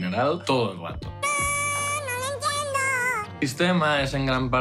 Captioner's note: whistle voice